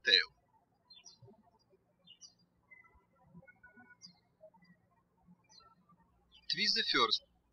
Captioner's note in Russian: птички щебечут